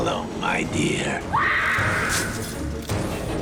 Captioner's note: person screams